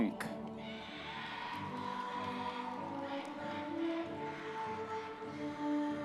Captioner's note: audience members cheering